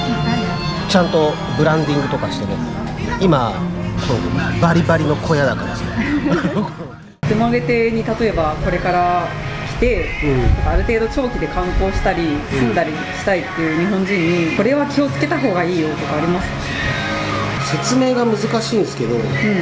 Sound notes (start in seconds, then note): 5.7 laughs